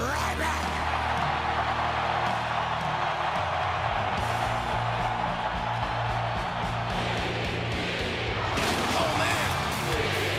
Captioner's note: crowd cheering